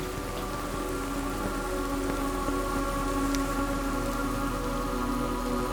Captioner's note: intimidating atmo sound